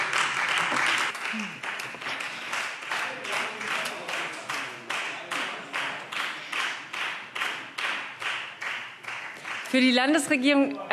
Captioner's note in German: Beifall Freie Demokraten